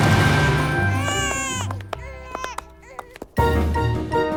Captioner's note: baby crying